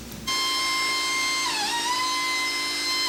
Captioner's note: machine sound